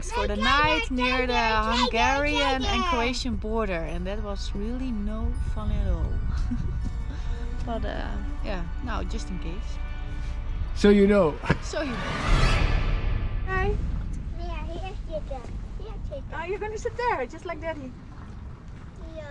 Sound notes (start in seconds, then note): 6.3 giggles; 12.9 whooshing music note